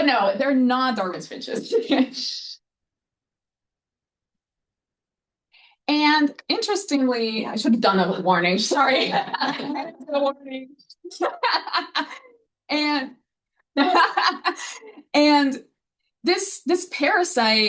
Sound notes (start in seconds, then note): 8.7 audience laughing